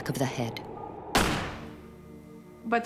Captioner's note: gun firing